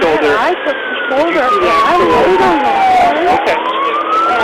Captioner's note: sirens